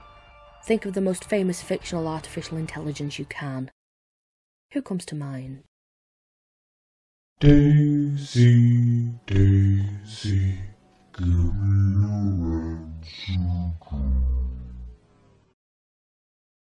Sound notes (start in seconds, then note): 7.2 Robotic voice slowly fading